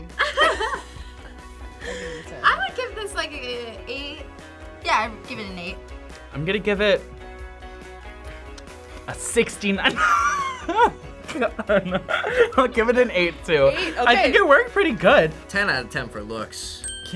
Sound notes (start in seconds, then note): 0.0 group laughs; 9.8 laughs